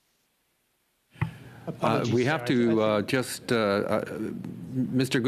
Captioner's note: speaking French